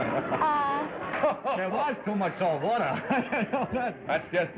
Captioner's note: laughs